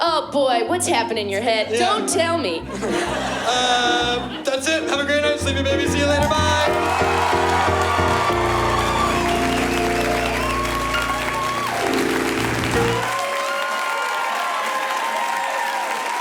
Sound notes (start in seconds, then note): 7.2 applause; 11.9 piano glissando; 14.0 applause